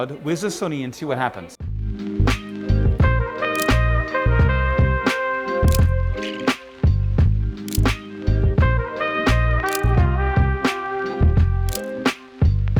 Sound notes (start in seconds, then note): 1.9 upbeat music; 3.5 camera shutter clicks; 5.9 camera shutter clicks; 9.9 camera shutter clicks